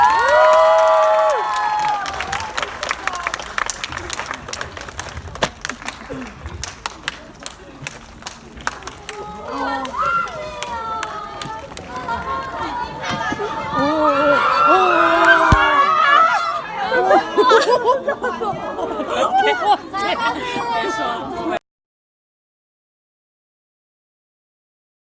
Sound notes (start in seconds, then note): 0.0 speaking in foreign language; 0.0 audience cheering; 9.8 audience speaking in foreign language; 13.6 audience screaming; 19.9 audience member speaking in foreign language